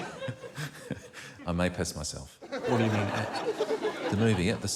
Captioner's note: chuckles